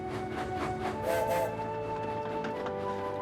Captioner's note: fergus whistles